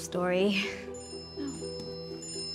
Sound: phone chimes

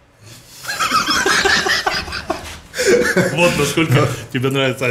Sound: both laughing

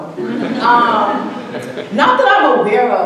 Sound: audience laughing

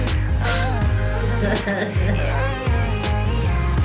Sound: cries in denial

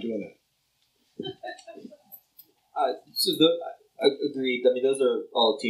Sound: laughter

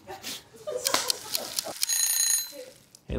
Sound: laughing; timer Ticking; timer Ringing

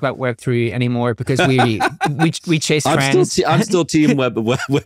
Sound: laughing

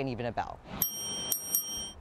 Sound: bell dinging

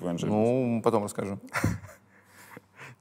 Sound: chuckles

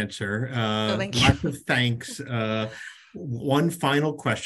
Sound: chuckles

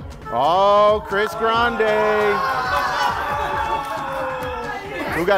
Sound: laughing

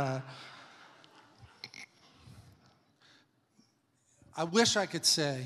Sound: congregation laughs

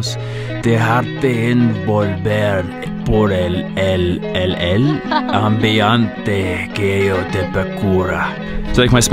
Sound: read in bad Spanish; read in bad Spanish

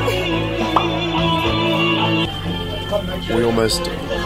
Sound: pop

